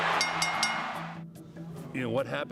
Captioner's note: bell dinging